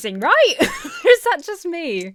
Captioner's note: laughs incredulously